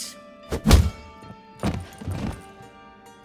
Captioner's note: punch lands, body thuds